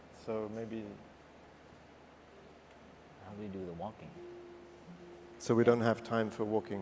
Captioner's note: very quiet speech